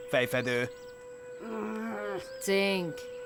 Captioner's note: groaning